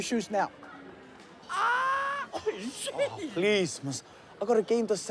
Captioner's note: laughs